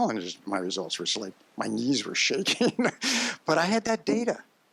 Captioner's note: laughs